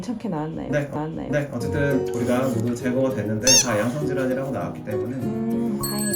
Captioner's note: tears